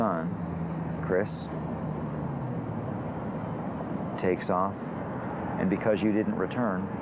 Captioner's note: none